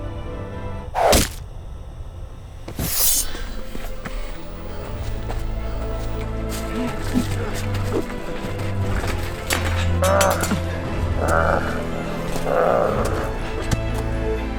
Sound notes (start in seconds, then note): 0.9 arrow hit; 2.7 sword drawing; 12.3 Orc growls